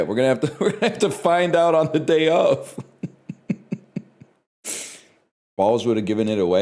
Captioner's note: laughs; cracks up